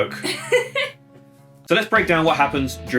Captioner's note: laughing